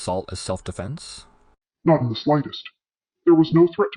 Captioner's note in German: verzerrt